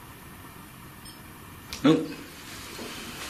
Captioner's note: metre beeping